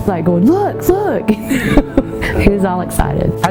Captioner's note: laugh